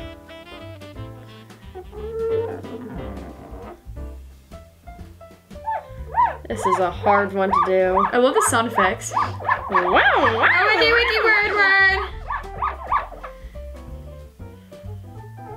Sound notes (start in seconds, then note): 0.1 jazzy Christmas music; 12.0 finger squeaks